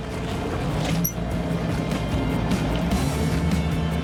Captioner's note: boat revving; upbeat music